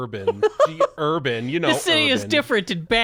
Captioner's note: laughs